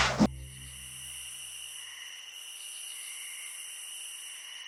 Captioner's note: crickets chirp